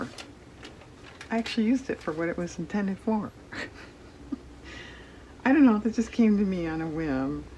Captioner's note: laughs